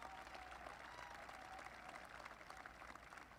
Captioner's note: applause